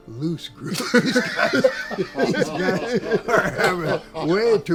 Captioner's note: laughter